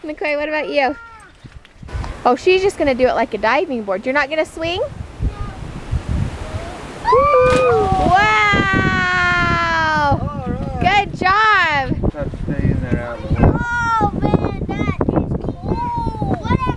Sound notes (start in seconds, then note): 0.0 laughs; 6.2 splash; 7.0 cheers